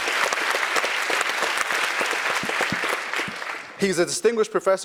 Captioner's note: applause